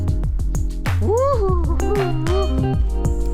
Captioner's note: whoops